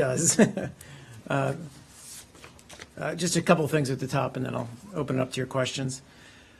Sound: laughter

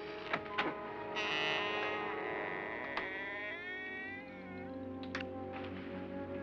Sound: door hinges creaking; door opens & hinges creak; ominous music

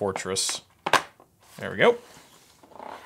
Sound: popping

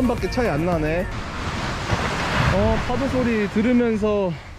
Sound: wave Sound

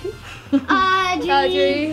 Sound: laughs

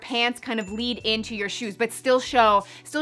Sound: chiming

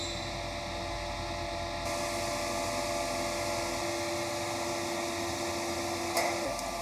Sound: machine whirring

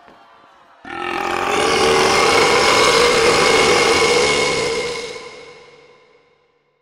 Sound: the Colossal Burp

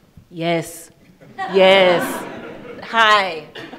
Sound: attendees laughing

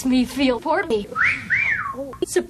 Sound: wolf whistle from off screen

